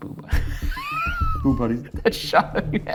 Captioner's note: laughing